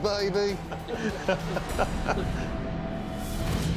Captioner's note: laughter